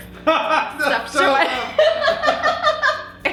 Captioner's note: laughing